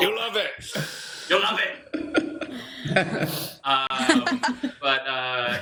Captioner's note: laughter